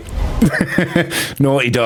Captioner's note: laughs